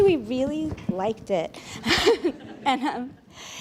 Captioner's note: laughter